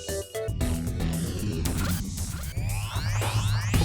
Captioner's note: whooshing